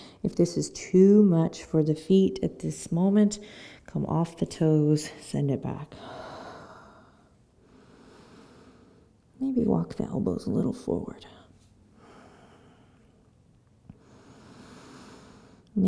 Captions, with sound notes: If this is too much for the feet at this moment, come off the toes, send it back. (breathes deeply) Maybe walk the elbows a little forward.